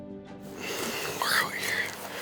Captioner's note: exhales